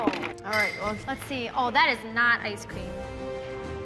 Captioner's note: clattering